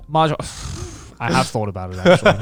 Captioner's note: laughs